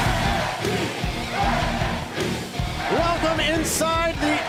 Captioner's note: crowd cheering